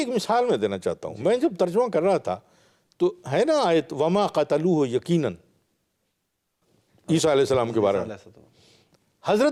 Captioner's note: Arabic